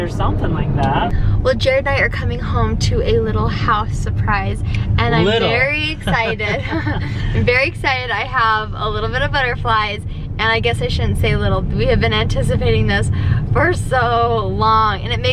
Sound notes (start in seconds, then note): 5.7 chuckling